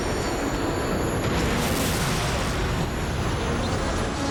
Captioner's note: gunshot